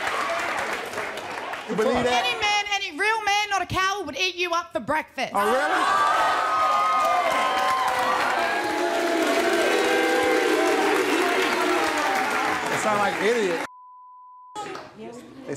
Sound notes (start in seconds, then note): 6.2 audience cheering; 7.6 audience booing